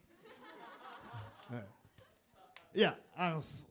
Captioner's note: audience laughs